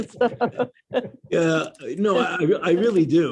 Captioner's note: laughter